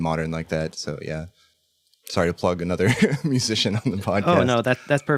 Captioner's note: laughs